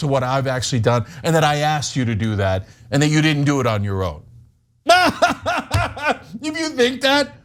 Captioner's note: laugh